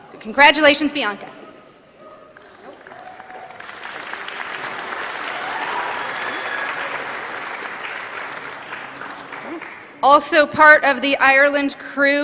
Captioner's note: applause